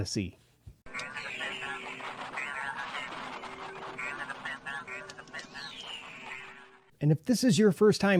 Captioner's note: probe droid sound effects